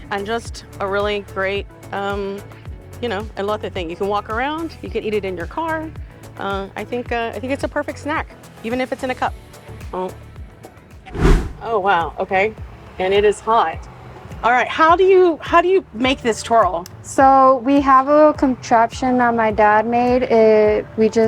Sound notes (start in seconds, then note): 11.1 uplifting music continues; 11.1 air whooshing